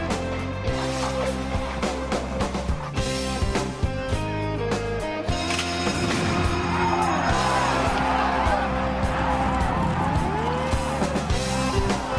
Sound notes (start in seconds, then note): 4.9 bell ringing; 5.9 crowd cheering